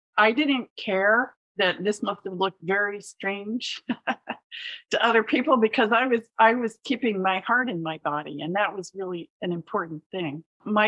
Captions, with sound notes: I didn't care that this must have looked very strange [laugh] to other people because I was, I was keeping my heart in my body, and that was really an important thing.